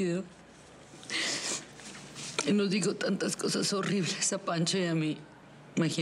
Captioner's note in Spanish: Solloza